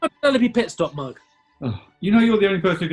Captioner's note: sighs